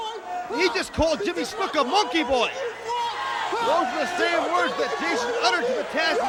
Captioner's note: crowd chatter